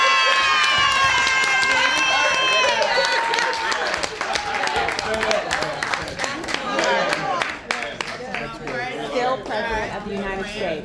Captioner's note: applause